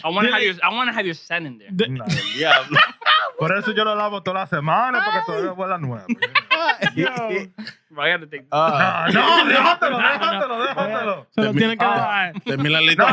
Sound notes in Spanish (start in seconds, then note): 3.6 Hablando en idioma extranjero; 3.6 Riendo; 8.9 Hablando en idioma extranjero